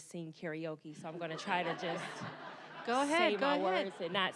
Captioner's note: audience laughing